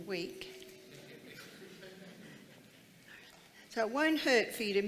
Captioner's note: crowd laughs